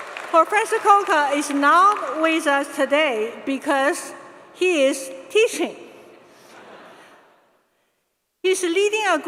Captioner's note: applause